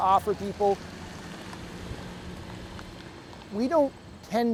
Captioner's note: car engine revving